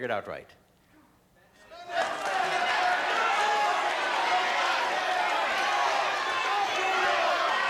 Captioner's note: crowd clamoring